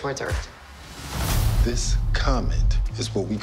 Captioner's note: loud boom